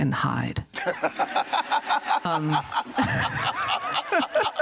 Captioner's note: chuckles